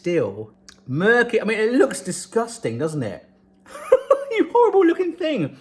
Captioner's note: laughs